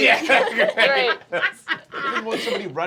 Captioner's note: laughing